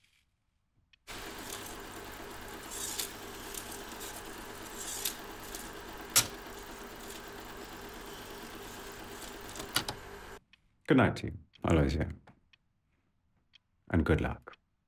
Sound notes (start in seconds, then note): 1.4 reels clicking; 6.4 machine clicks